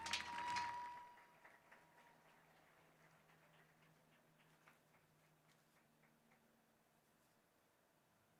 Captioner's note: applauding